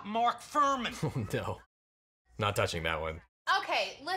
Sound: chuckles

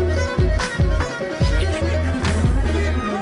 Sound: indistinct chatter

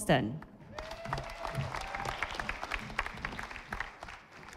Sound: audience applauding

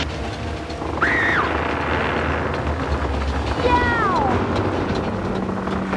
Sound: screams

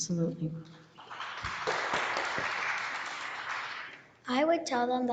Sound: audience applauding

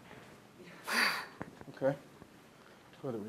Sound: sighing loudly

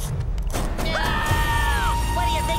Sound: screaming

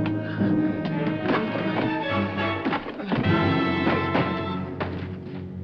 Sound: grunting

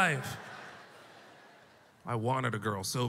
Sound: audience laughter

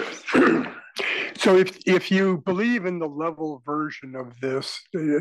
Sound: cough

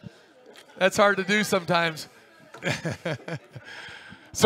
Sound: laughs

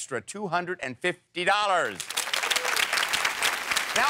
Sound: audience applauds

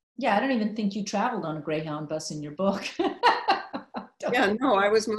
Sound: laughing

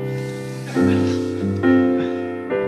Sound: audience laughs; gentle piano music continues

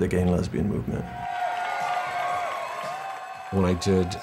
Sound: crowd cheering

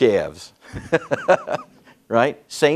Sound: chuckles

